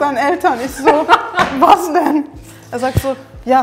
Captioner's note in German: Lachen